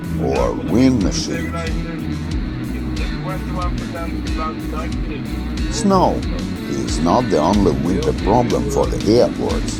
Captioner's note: wind